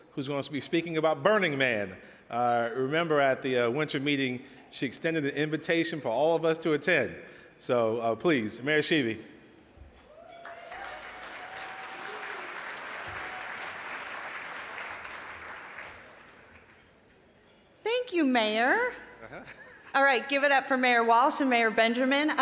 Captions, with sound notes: who's gonna be speaking about Burning Man. Remember at the winter meeting, she extended the invitation for all of us to attend. So please, Mayor Schieve. (audience applauding) - Thank you, Mayor. Alright, give it up for Mayor Walsh and Mayor Benjamin.